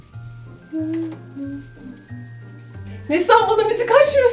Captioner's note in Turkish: şarkı mırıldanıyor